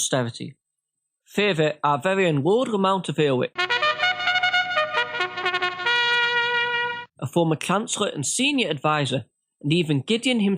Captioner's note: horn